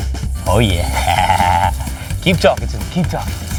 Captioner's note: laughs